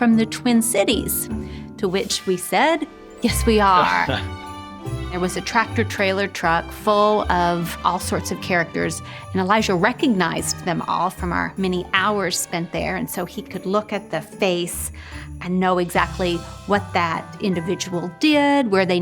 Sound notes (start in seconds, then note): 3.6 laughing; 4.2 bright music